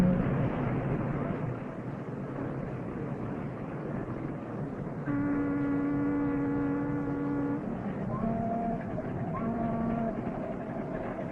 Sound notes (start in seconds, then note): 5.0 boat horn blowing